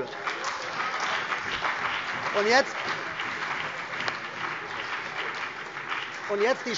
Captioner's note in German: Beifall CDU und BÜNDNIS 90/DIE GRÜNEN